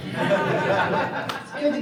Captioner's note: laughter